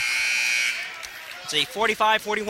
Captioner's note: buzzer sounding